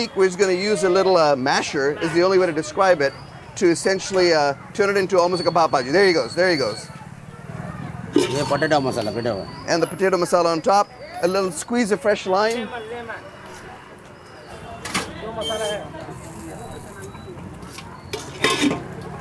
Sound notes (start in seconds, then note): 8.3 speaking in Hindi; 14.6 customers chattering